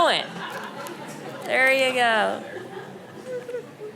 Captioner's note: audience laughing